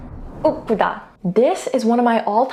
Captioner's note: energetic transition music; speaking in Korean